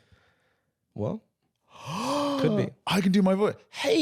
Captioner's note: gasps